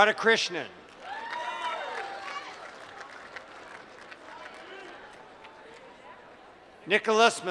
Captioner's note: applause